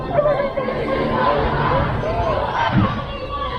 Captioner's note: crowd